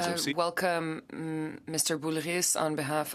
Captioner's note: speaking French